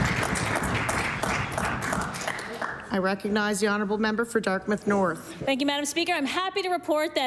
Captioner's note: applause